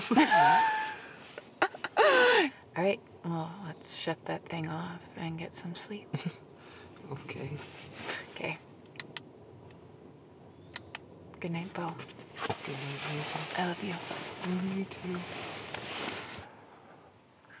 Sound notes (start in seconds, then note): 0.0 laughing; 10.7 clicking